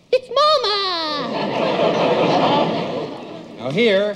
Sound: audience laughs

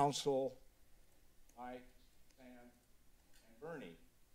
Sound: silence

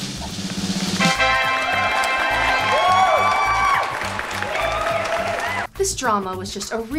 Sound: drum roll beats; crowd cheering

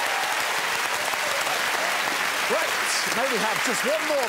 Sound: applause

